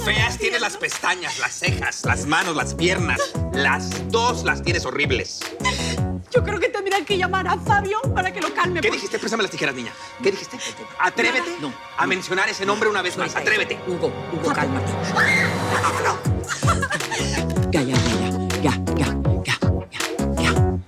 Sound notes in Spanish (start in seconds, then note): 15.1 Grito; 15.2 Sollozo